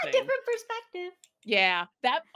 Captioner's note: laughs